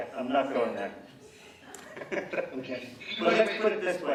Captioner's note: laughing